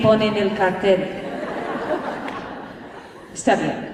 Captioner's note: laughter